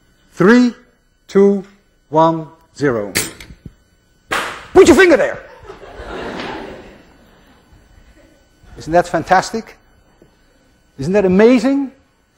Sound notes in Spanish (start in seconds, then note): 3.0 arma clic; 5.5 clase se ríe